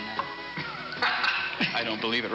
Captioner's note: laughs